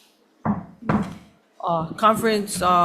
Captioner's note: gavel bangs